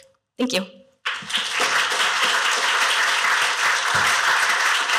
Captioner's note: applause